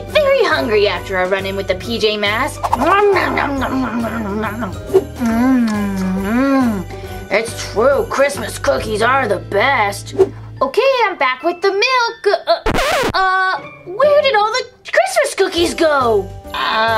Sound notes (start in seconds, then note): 2.6 whooshing; 4.8 eating noises; 12.6 record scratches